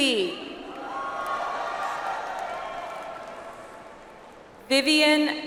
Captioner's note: audience applauds